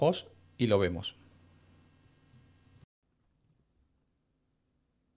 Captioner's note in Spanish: Silencio